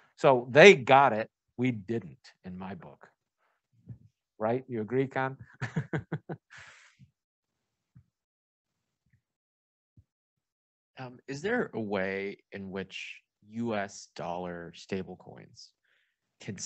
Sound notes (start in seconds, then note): 5.4 laughing